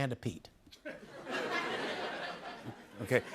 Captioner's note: laughter